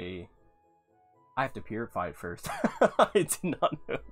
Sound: laughs

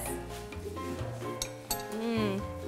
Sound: spoon clink

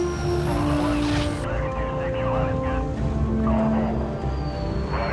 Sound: radio chattering

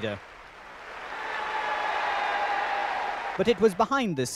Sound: crowd cheering

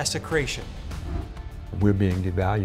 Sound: air whooshes

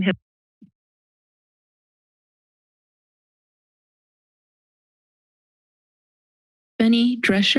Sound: silence

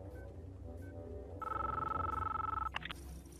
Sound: phone ringing

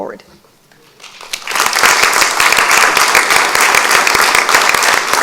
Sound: audience applauds

